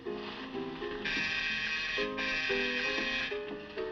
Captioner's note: buzzes